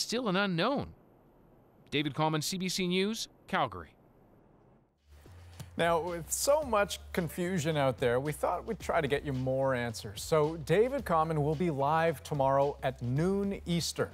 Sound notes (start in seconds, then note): none